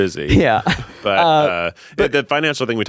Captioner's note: chuckling